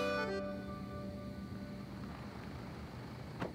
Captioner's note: Car approaching; Car door closes